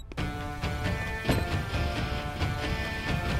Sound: door opens; door closes

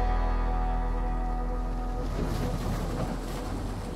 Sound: waves crashing

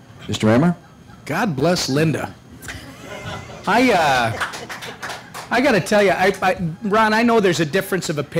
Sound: laughter, applause

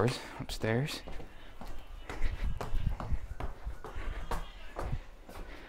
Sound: footsteps treading

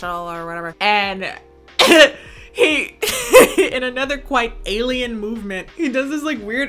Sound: laughs

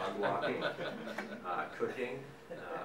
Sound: audience laughing

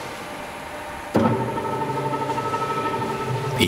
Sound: rattling noise

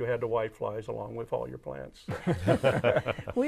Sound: laughing

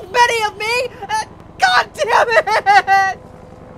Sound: sobs

